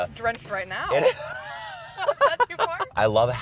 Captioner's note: laughs